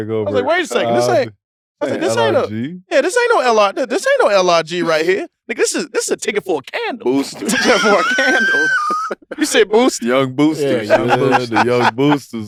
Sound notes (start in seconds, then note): 7.1 group laughs